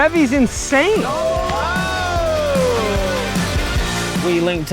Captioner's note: all cheer